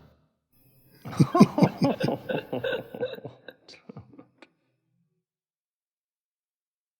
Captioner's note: laughter